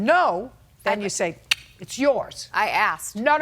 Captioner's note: cheek clicking